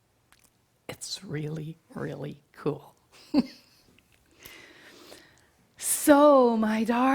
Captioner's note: chuckles